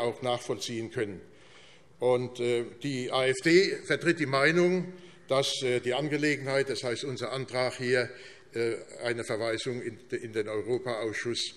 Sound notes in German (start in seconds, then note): none